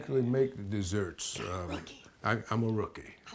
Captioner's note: whispers